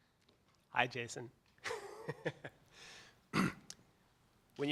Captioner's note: laughs